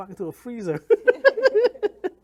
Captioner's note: laughs